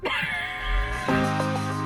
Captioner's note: laughing; upbeat music